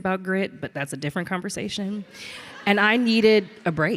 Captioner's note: audience laughs